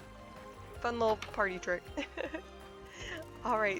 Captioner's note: laughs